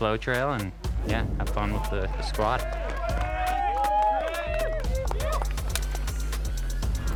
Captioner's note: crowd cheering